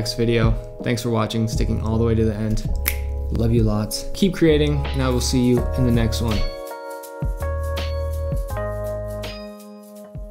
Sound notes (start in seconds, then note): 2.7 snaps fingers